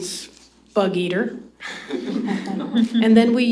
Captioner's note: laughter